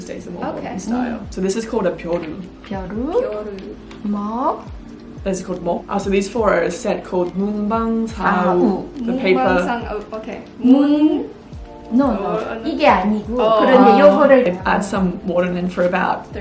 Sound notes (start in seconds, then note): 1.7 speaks in foreign language; 2.4 speaks in Korean; 5.4 speaks in foreign language; 7.0 speaks in foreign language; 10.3 speaks in Korean